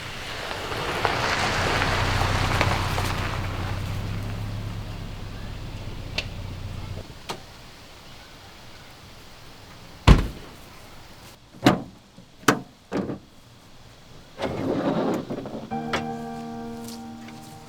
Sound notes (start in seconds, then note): 0.0 the sound of a car driving on gravel and then parking; 7.4 car door opening, closing and the trunk opening, and tools being pulled out